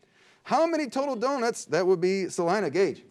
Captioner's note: beep